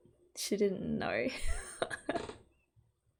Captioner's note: laughs